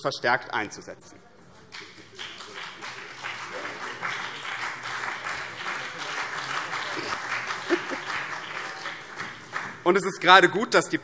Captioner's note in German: Beifall BÜNDNIS 90/DIE GRÜNEN und vereinzelt CDU